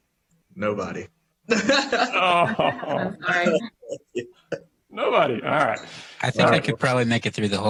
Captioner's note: laughter